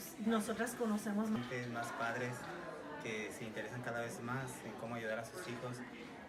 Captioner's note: speaking in Spanish